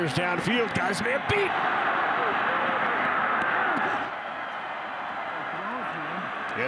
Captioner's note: fans cheer